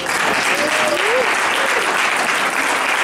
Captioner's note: applause